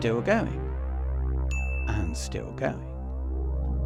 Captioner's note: microwave pings